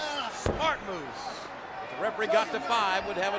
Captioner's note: boot thuds